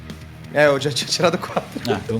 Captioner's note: laugh